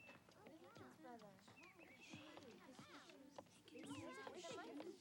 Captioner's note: kids chattering